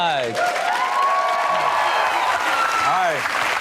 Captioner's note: audience claps and cheers